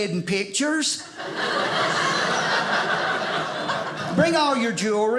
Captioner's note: audience laughing